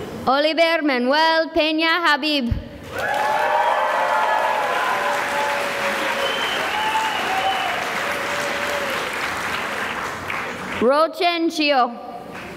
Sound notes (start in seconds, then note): 2.9 cheering and applause